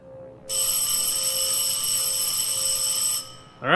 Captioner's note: school bell rings